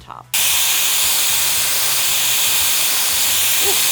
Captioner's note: dryer whirs